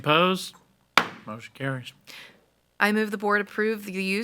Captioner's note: gavel bangs